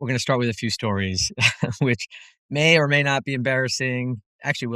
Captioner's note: laugh